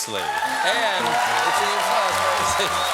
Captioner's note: cheers and applause